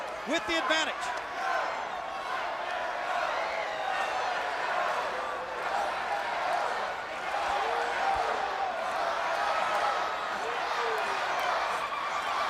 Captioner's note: crowd cheering